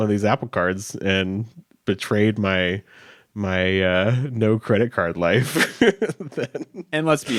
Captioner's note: chuckles